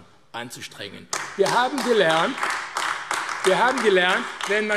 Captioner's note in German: Beifall AfD